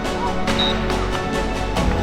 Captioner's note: referee whistle; clapping